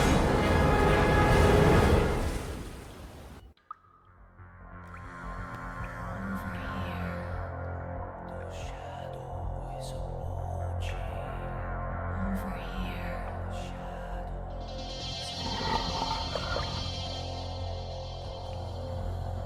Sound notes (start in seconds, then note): 4.3 water dripping; 5.6 whispered; 7.4 tense music; 19.1 eerie music